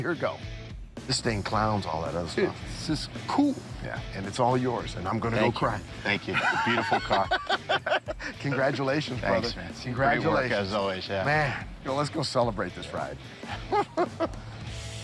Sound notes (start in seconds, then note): 6.2 laughter